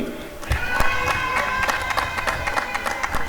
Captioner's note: applause and cheering